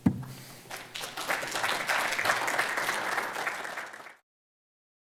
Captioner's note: audience applauding